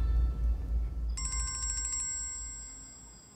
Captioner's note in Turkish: Telefon çalıyor